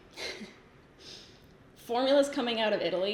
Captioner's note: giggles